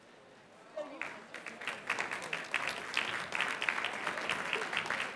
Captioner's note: applause